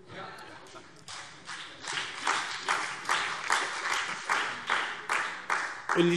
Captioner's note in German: Beifall DIE LINKE und SPD